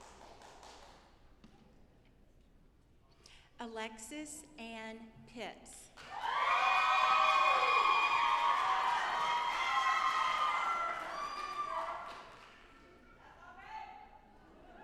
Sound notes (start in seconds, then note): 6.0 audience applauding